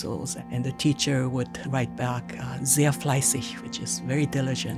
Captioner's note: speaks German